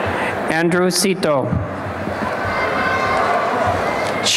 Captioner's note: cheering and applause